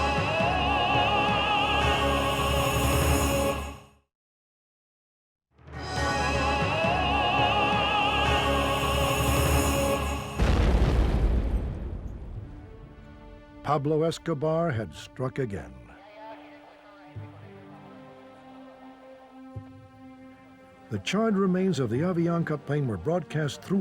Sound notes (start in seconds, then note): 0.0 epic music; 0.1 singer vocalizing; 5.9 epic music; 5.9 singer vocalizing; 10.3 bomb exploding